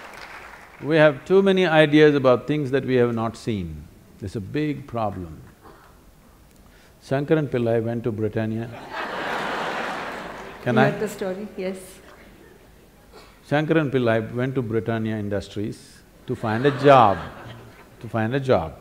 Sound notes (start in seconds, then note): 8.8 laughter/Applause; 16.3 laughter